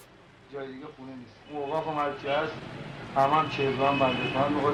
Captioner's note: speaking foreign language